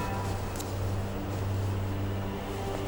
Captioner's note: heavy wind